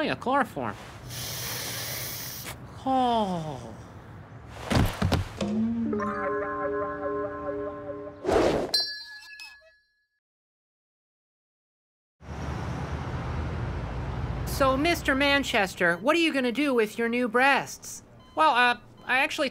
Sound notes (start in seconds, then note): 1.0 sniffing; 2.8 sighing